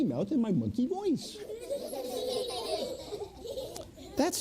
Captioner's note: children laughing